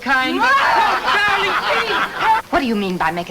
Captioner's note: angry wife shouts